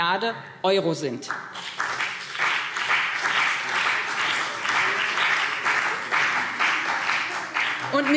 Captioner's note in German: Beifall BÜNDNIS 90/DIE GRÜNEN und CDU